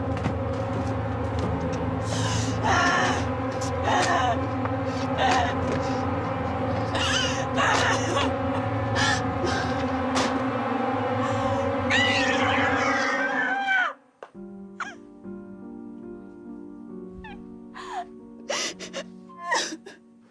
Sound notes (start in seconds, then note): 2.5 grunting; 6.8 crying; 9.8 dramatic music; 11.8 screaming; 14.0 soft piano music; 19.4 crying